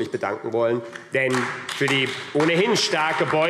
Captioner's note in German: Beifall AfD